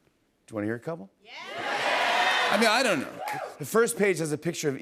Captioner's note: cheers and applause